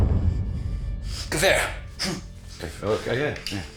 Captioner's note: foreboding music; Koch speaking German; Brown repeating German